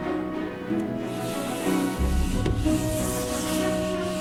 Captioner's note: hand rubbing